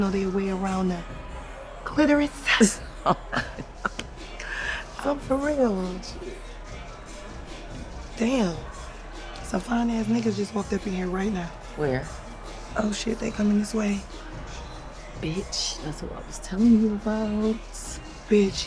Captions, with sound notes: to know their way around a clitoris. (Junie laughs) I'm for real. Damn, some fine ass nigga just walked up in here right now. - Where? - Oh, shit, they coming this way. - Bitch, that's who I was telling you about.